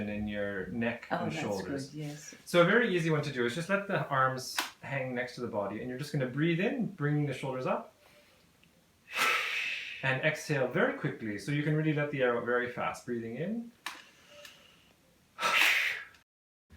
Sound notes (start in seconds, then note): 9.1 breathe out